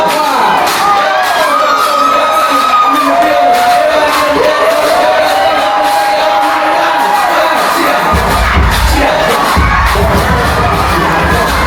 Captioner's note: crowd Cheering; upbeat Music; crowd Cheering; upbeat Music